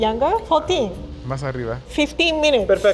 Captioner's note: speaking Spanish